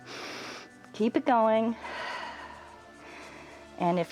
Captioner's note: exhales